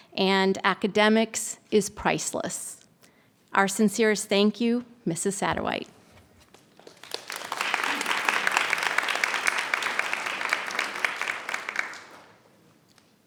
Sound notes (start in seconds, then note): 6.8 audience applauds